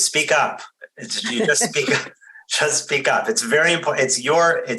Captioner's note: laughs